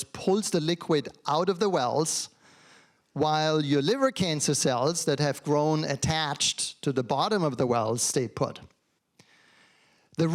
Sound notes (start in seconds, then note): none